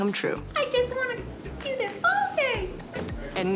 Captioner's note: squeaky